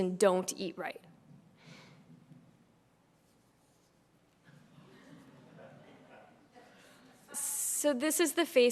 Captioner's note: laugh